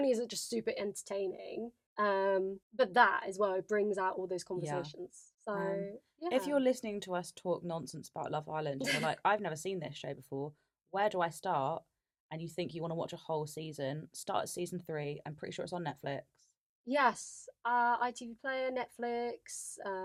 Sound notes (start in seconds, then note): 8.8 laughs